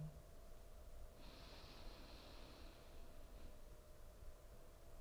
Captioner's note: inhaling